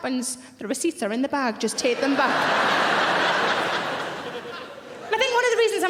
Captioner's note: audience laughing